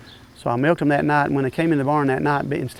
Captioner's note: background birds chirping